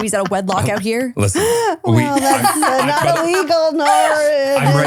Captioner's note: laughing